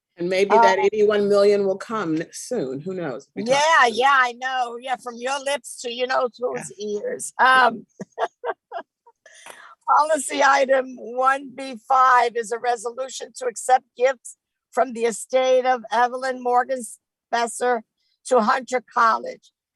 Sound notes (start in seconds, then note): 7.6 chuckles